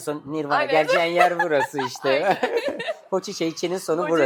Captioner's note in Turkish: kahkaha